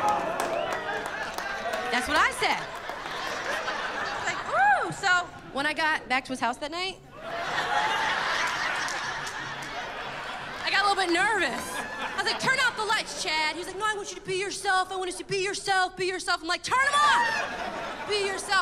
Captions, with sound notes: [ Applause ] That's what I said. Like, whoo! So, when I got back to his house that night... [ Laughter and applause ] ...I got a little bit nervous. I was, like, "Turn out the lights, Chad"! He's like, "No, I want you to be yourself. I want to see -- be yourself. Be yourself." I'm like, "Turn them off!" "Be yourself."